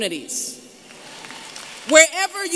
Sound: applause

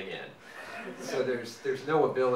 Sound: audience laughing

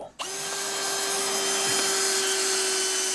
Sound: drilling noise

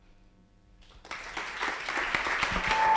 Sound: applause

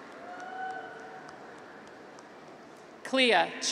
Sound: graduates cheer

